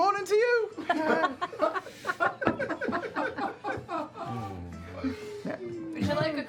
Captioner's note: laughter